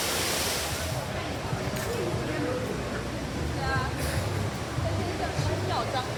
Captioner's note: waterfall